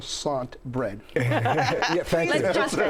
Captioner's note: group laughs